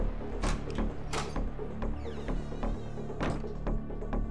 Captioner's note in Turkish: Kapı Açılıyor